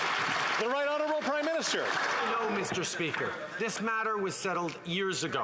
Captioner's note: applause